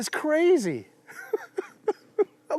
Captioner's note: laughs